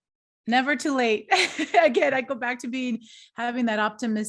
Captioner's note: laughter